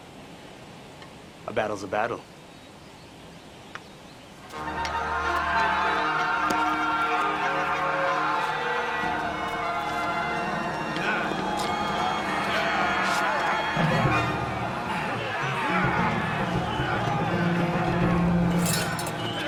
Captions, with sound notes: - A battle's a battle. (dramatic orchestral music) (people yelling)